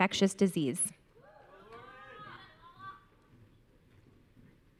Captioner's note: audience cheering